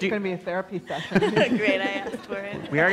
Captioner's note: laughs